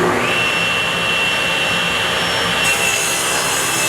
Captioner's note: table saw whirring